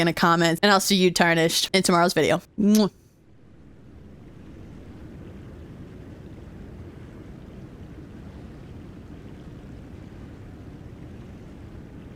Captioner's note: kiss